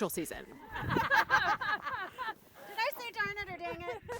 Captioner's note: laughing